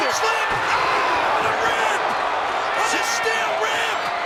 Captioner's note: crowd cheering